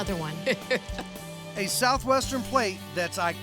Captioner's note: chuckling